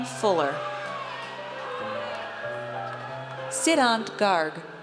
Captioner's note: audience cheers